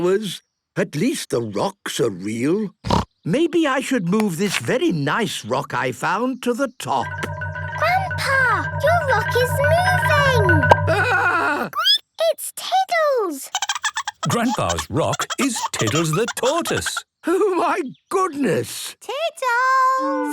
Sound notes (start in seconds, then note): 2.2 snorting; 13.5 Tiddles giggling; 13.6 squeaking